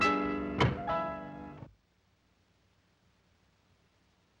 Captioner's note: door lock thuds